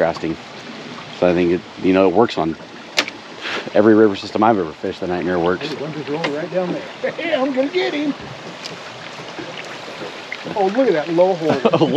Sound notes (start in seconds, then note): 8.3 chuckling